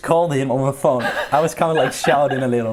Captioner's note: dramatic laughs